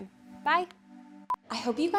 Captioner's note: monitor beeping